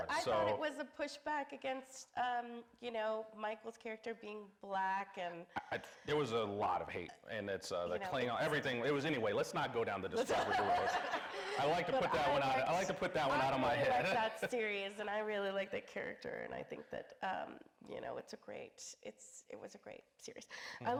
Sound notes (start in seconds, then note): 10.2 everybody laughing